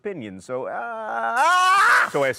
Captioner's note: yells